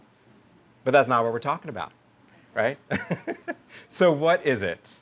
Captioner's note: laughs